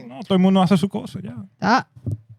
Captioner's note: speaking Spanish